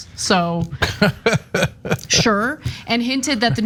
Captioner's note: laugh